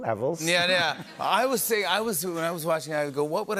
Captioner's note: laughter